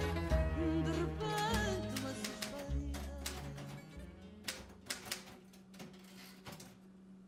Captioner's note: mechanical Typewriter